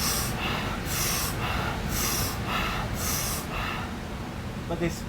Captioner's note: heavy, rhythmic breathing